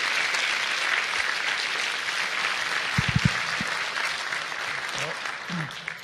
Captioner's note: applause